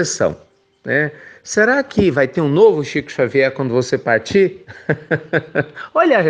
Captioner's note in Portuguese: risos